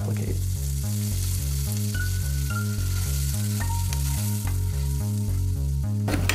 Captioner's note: sizzling